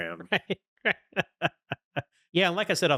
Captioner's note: laughing